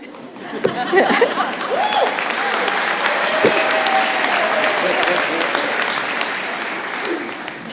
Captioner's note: laughter; applause